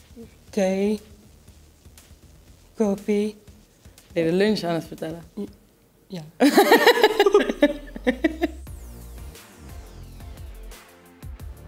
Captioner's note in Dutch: lachen